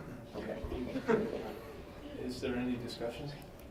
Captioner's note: laughing